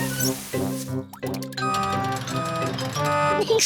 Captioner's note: crane beeping